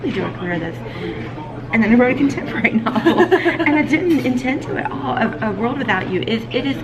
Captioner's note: laughs